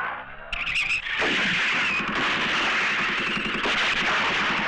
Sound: gun Firing

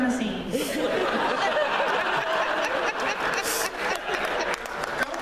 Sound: laughter

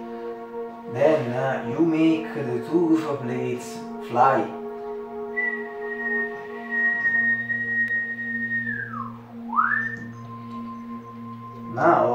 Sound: whistle

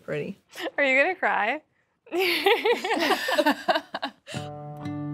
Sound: laughing

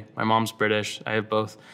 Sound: none

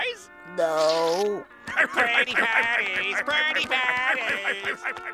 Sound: laughing

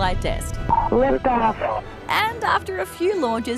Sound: over comms

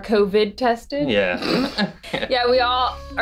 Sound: laughs

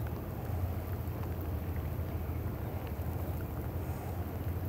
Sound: water rippling

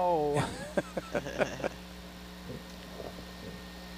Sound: all chuckling

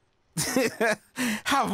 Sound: laughing

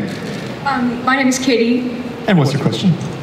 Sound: voiceover

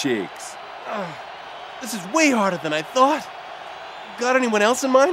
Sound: groans

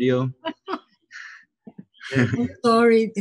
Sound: laughing

